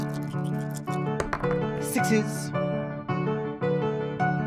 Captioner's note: rattling dice and throwing